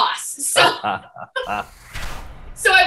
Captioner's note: laughs